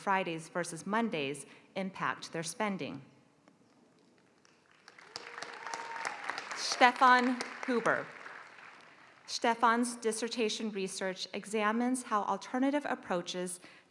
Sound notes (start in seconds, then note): 4.4 applause